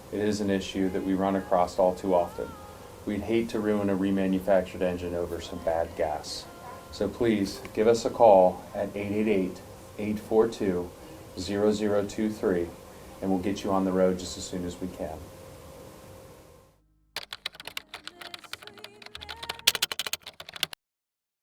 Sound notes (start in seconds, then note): 17.2 clicking